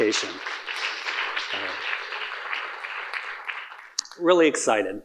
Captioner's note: audience applauding